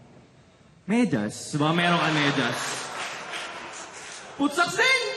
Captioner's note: laughter